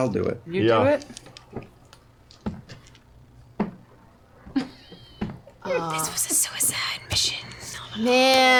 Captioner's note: whispers